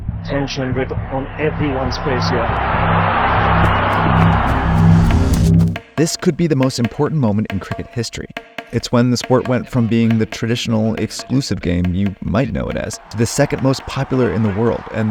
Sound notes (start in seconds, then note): 2.8 crowd cheering; 2.8 tense music